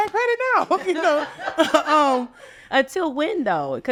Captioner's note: all laughing